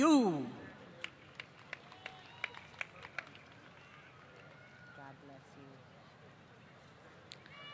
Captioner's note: applause